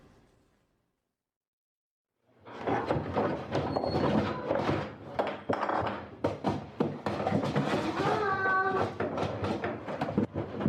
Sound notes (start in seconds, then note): 2.7 rummaging